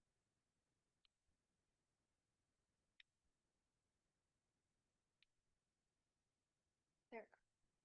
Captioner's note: silence